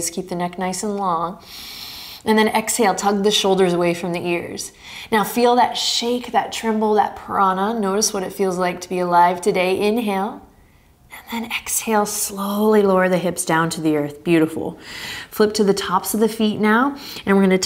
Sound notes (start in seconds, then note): 1.4 inhaling deeply